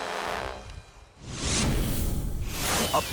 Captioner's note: logo squishes